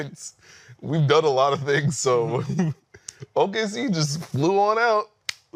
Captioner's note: laughter